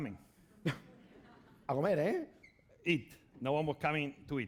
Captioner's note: speaking spanish